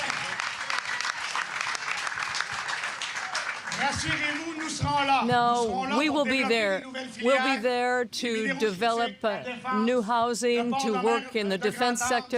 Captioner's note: applause